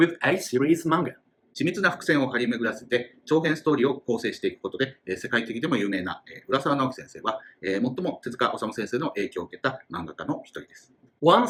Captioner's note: speaking Japanese